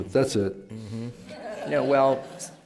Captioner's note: laughter